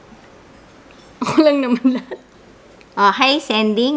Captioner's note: laugh